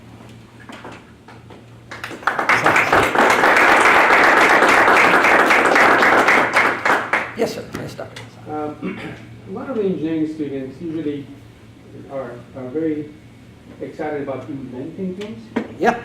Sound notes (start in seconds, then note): 1.8 audience applauds